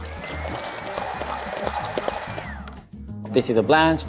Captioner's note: blender whirring